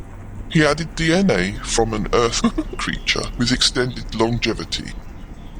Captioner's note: laughs